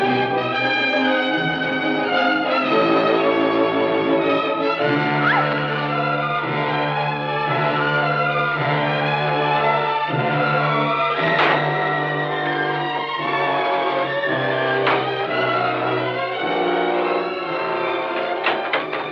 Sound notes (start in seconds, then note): 5.0 shrieks